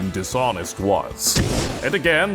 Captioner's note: fwoosh